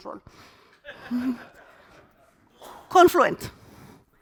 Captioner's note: participants laughing